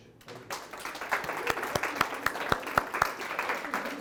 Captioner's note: applause